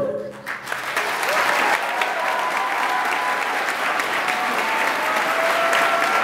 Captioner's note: audience applauding and cheering